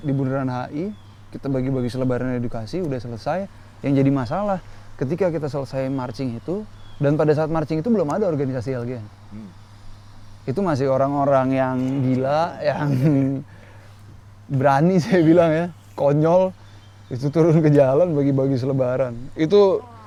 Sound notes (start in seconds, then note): 11.7 laughs; 15.4 laughs